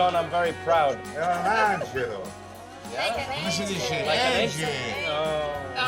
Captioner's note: speaking Italian